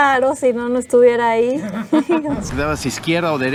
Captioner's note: laughter